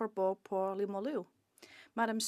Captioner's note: speaking French